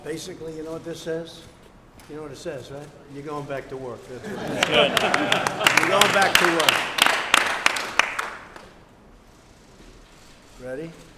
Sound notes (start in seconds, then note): 6.4 applause